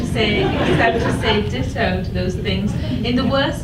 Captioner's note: audience laughs